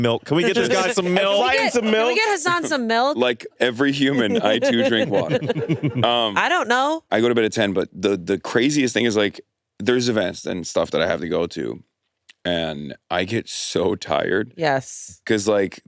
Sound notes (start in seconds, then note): 5.6 all laughing